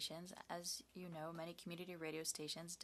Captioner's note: speaking French